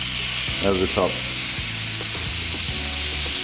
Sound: sizzling

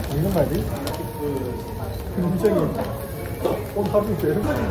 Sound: nom nom nom

